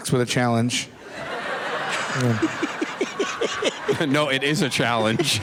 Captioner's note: laughter